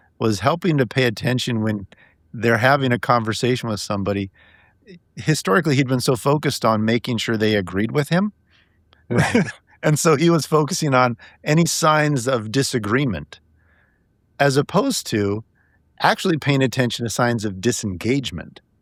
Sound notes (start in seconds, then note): 9.1 laughing